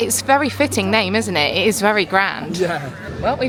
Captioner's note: chuckling